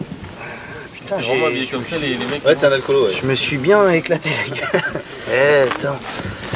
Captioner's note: laugh